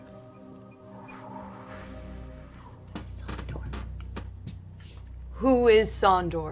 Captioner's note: whispers